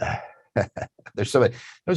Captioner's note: chuckles softly